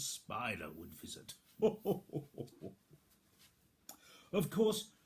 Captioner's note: laughs cheerily